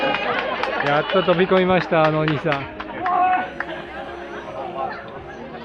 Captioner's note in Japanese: 拍手